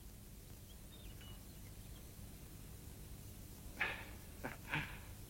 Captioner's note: chuckles